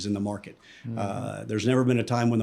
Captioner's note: inhales